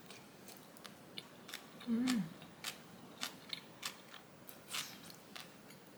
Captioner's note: cucumber crunching sound